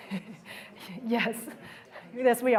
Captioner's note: laughter